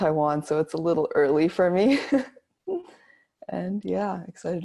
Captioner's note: laughs